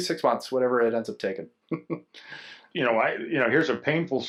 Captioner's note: laughs